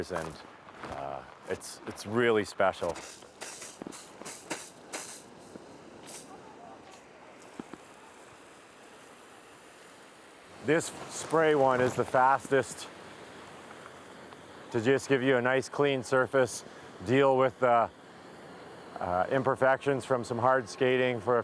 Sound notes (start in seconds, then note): 4.3 water spraying